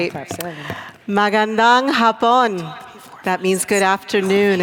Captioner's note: speaking tagalog